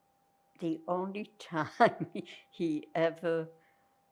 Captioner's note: laughing